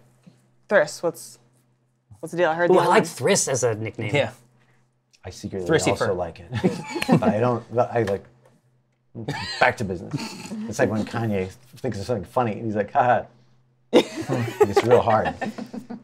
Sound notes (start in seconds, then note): 8.2 stammers; 13.9 laughter